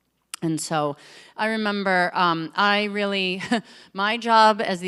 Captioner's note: laughs